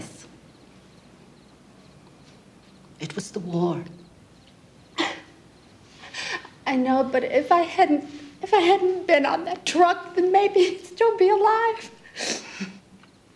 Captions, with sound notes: It was the war. [sobs] I know. But if I hadn't-- if I hadn't been on that truck, then maybe he'd still be alive. And maybe he wouldn't.